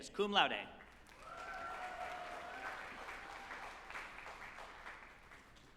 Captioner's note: group applauding and cheering